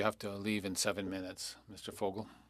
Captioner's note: speaking French